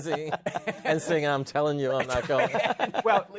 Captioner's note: laughter